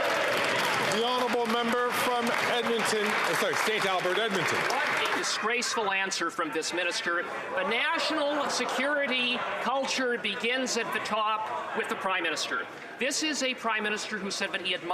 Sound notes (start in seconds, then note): 2.9 some Applause